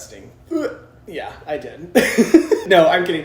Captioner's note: laughs